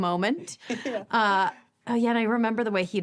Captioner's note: chuckles